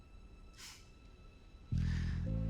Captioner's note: laughs